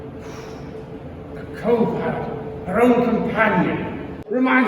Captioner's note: blows air